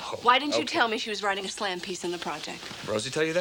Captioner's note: none